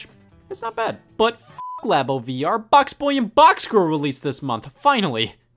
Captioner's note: beep